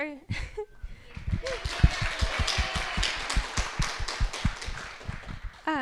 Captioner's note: audience clapping